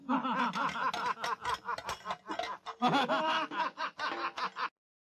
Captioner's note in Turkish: gülüşme sesleri̇